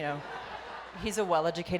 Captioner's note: audience laughs